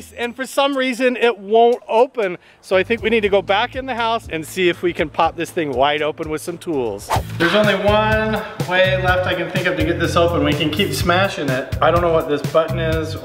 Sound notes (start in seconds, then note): 7.0 whooshing; 7.1 upbeat drumbeats